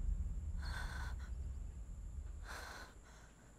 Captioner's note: Breathing heavily